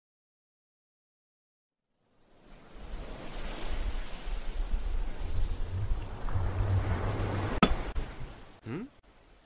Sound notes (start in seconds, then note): 2.0 ocean sounds; 7.5 pickaxe hits stone